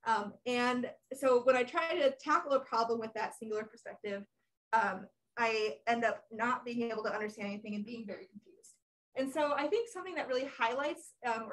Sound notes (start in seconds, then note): none